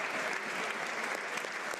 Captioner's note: applause